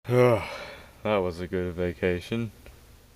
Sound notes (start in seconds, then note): 0.1 ghoulish Sigh